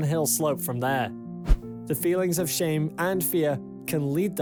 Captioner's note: screen swishes